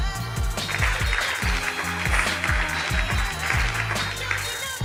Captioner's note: upbeat music; clapping; upbeat music